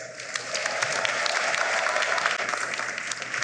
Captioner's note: applause